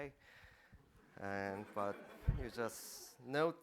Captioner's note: laughter